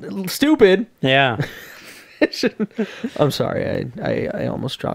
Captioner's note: laughing